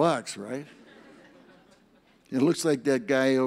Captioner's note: audience laughs